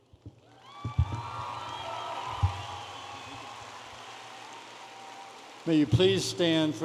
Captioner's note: audience applauding and cheering